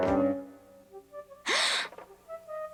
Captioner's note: gasps